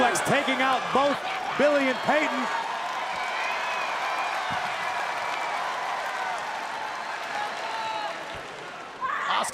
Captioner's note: crowd cheering